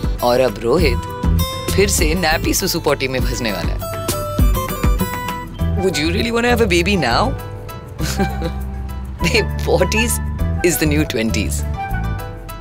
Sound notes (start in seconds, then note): 8.0 laughing